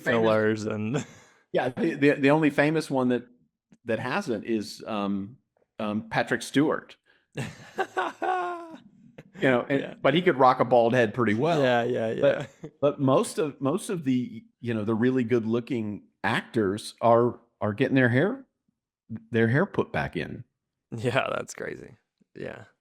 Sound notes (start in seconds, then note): 1.3 laughs; 7.4 laughs